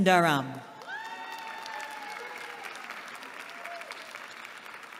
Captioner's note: applause